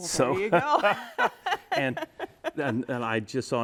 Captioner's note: laughing